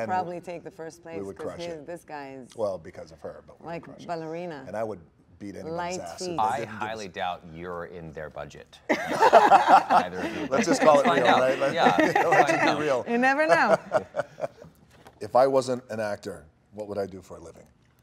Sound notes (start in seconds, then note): 8.9 Gal and Dwayne laughing